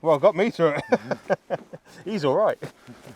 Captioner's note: laughs